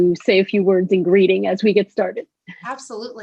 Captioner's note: laughter